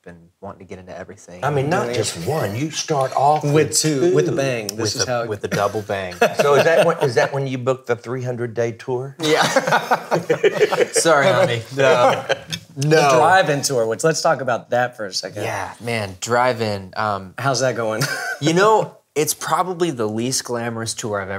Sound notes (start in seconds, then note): 9.2 all laughing; 18.1 laughs